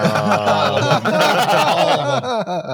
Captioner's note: uproarious laughter